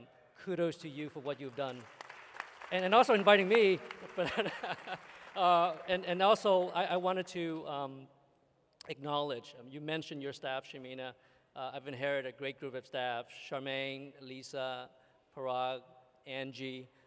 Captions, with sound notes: kudos to you for what you've done and also inviting me [laughs]. [applause] And also, I wanted to acknowledge, you mentioned your staff, Shamina, I've inherited a great group of staff, Charmaine, Lisa, Parag, Angie,